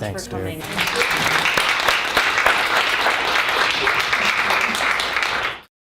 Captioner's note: applause